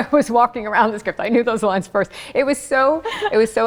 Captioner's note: laughing